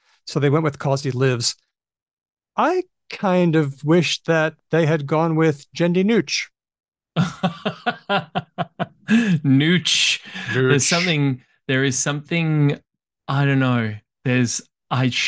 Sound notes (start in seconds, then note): 9.8 laughs